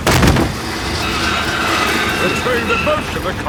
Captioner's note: thud